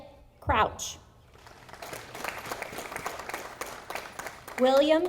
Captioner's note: audience applauding